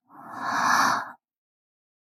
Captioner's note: gasp!